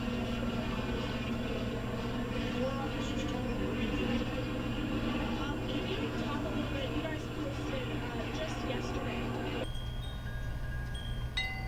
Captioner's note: background chatter